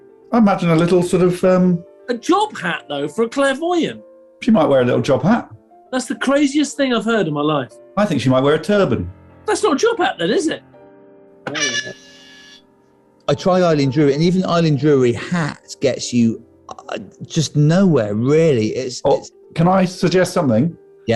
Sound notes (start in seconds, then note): 11.3 klaxon